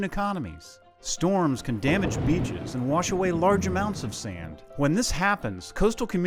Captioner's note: thunder